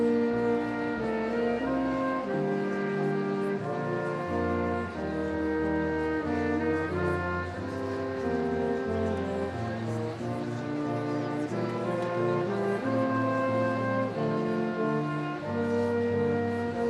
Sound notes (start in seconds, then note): none